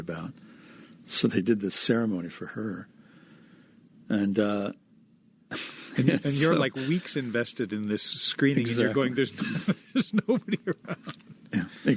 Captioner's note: laughing